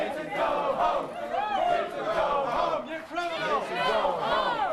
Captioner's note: crowd chanting